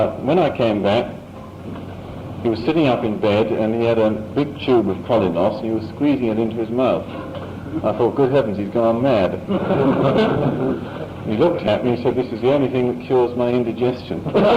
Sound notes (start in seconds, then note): 9.4 laughter